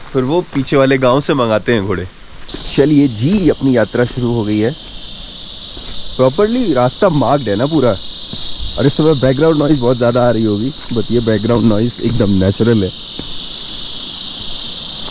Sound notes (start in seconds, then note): 5.7 buzz of cicadas and crickets; 12.2 crickets and cicadas buzzing